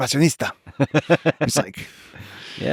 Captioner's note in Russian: что-то на иностранном языке; Лекс смеётся